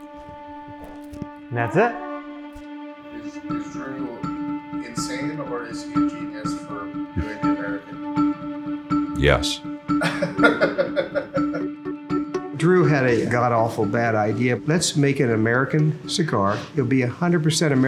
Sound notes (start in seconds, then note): 10.0 laughter